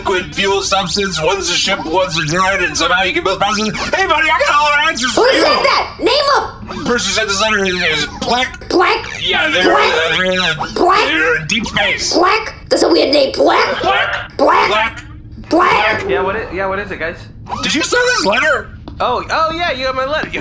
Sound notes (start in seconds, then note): 14.8 shouting